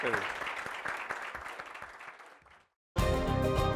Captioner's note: applause